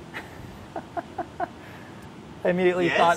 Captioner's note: chuckling